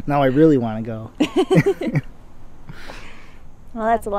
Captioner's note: both laughing